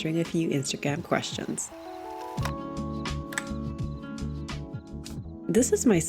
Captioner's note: music, cassette tape wires and pops open